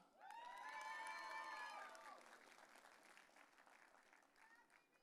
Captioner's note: audience cheering